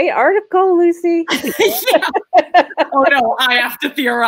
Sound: laughing

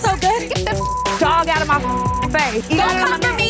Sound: beep

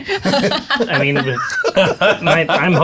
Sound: all laughing

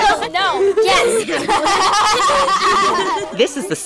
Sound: laughter

